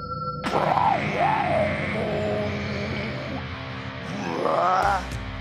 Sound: mimics electric guitar tuning

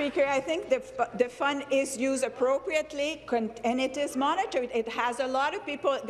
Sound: applause

